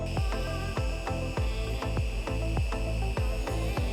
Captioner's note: machine whirs